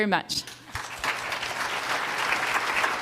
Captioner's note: applause